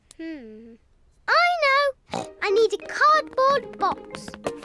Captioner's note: snorts